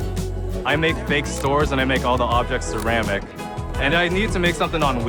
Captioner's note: none